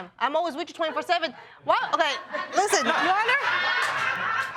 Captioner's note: audience laughing